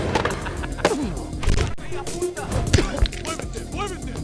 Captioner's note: intense music; skateboard clattering; skateboard bangs